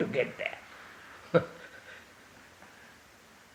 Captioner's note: laughs